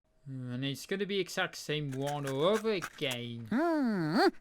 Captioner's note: eating sound